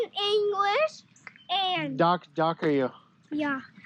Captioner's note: speaking Ukrainian